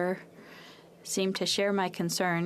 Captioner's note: french